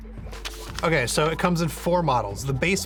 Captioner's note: rustling paper